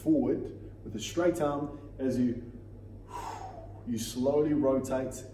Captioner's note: exhales